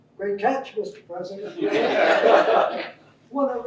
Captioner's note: laughter